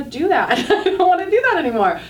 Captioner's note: laughing